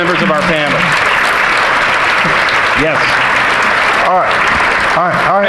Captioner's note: audience applauding